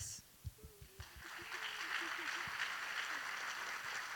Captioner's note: audience applauding